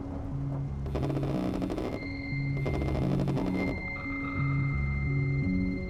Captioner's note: cellphone vibrates